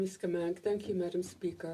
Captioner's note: speaking French